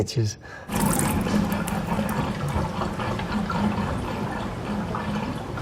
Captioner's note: water gurgling